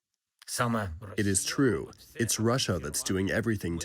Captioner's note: through translator